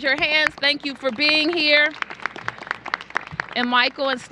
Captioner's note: applause